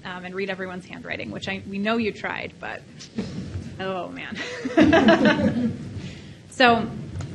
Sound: laughs

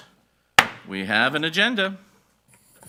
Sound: gavel bangs

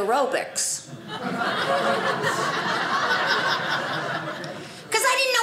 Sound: audience laughing

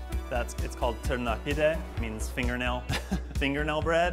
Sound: laughs

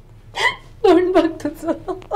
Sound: laughing

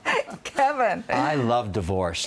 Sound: laughter

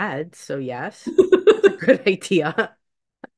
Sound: laughs

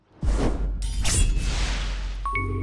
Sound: sword slash; swoosh; intro jingle

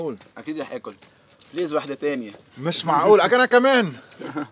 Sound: laughing

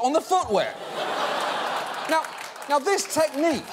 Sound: audience laughing

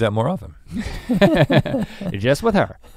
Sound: laugh

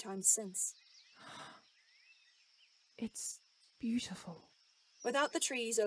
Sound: Regulus gasps

